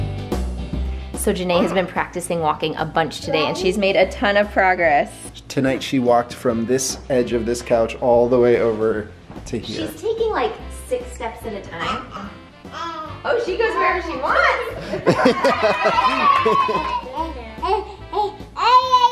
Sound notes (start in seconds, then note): 15.0 cheering; 17.6 babbling